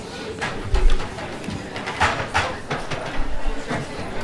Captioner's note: audience chatters